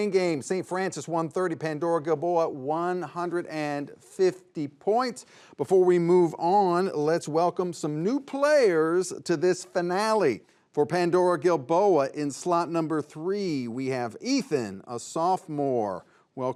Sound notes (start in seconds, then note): none